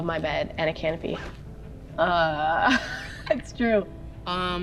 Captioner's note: laughs